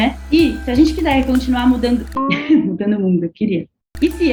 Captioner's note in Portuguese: som engraçado